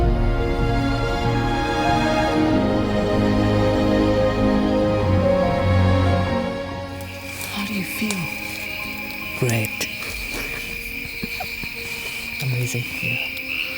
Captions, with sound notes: (uplifting music continues) How do you feel? - Great. (chuckles) Amazing, yeah.